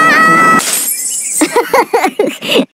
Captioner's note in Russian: кеша смеётся